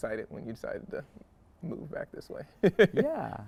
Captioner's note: chuckles